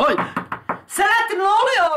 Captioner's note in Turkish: Kapı sesi